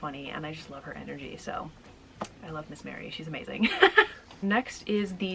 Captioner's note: laughing